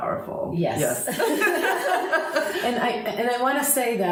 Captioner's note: both women laughing together